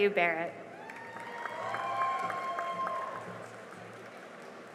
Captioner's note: cheering and applause